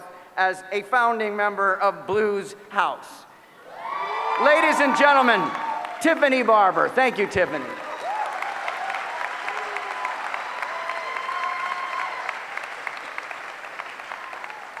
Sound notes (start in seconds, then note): 7.7 applause